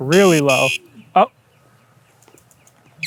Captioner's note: warning beep; silence again